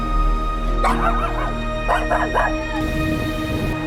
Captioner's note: dog barking